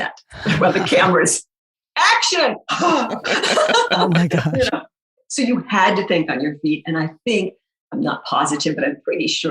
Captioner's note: laughing